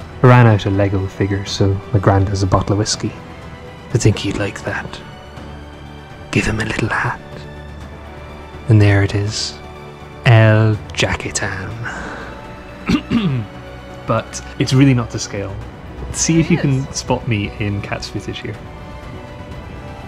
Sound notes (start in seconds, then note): 6.2 whispering; 12.8 coughs